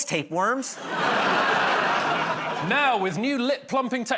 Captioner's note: laughter